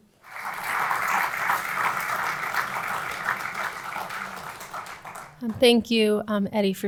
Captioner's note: audience applauding